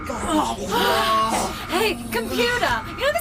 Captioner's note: the rest of the crew GROAN